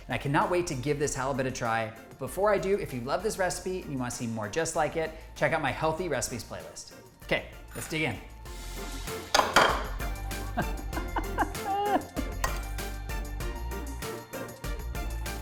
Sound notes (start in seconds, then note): 9.3 plate slams; 10.5 laughs; 12.6 gentle music